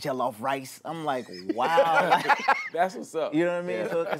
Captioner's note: laughter